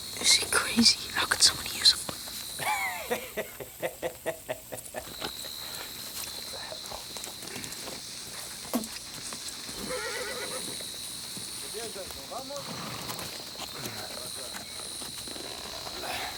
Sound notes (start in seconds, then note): 2.6 gang member laughs; 8.7 gang member spits; 9.7 horse neighs; 11.4 distant chatter in Spanish